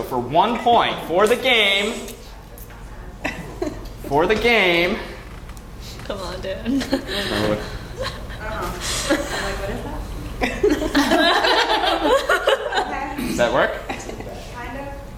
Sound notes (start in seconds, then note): 6.6 laugh; 13.8 laugh